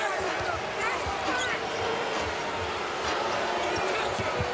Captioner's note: crowd booing